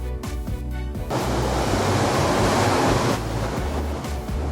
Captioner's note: wind blowing